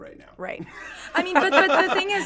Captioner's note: group laughs